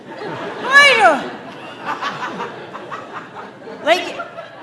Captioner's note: audience laughing